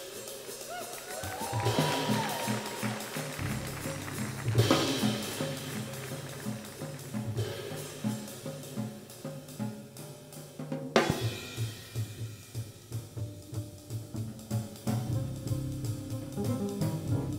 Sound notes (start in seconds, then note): 0.2 audience cheers; 1.2 upbeat jazz music fades; 1.5 audience applauds; 7.3 upbeat jazz music